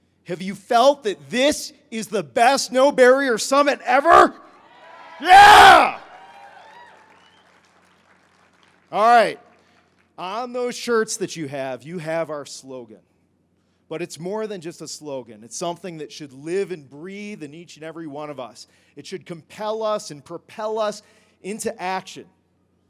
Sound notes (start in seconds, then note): 4.6 crowd cheers